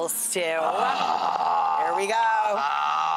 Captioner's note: Rachael groaning